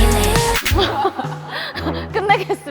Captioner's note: laughing